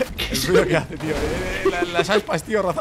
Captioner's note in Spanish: risas